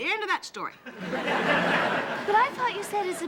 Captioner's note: audience laughing